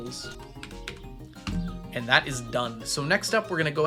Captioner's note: keyboard clacking